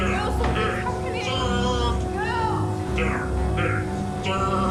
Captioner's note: snake hissing